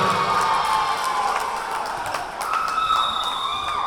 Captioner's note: cheering; whistle blowing; cheering